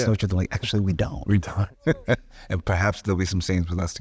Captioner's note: chuckling